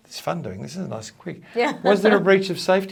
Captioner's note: chuckles